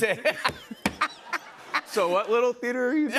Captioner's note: laughs